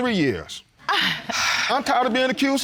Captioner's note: gasps, chuckles